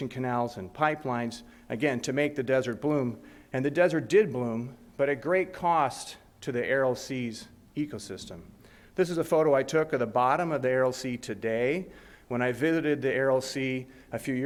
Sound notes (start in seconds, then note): none